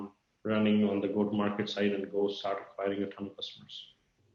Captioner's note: murmurs